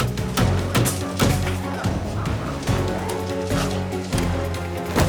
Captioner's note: hammer banging